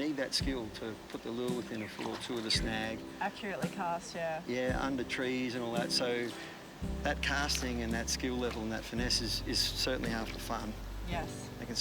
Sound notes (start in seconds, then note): 0.1 peaceful music continues; 8.8 people chatter